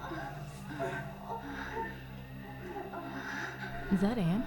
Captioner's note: people moaning